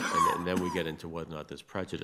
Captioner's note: attendee coughing